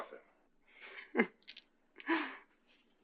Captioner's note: chuckles